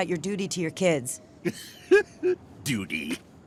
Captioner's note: laughing